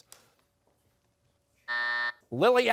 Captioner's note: buzzer